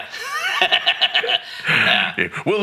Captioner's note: laughing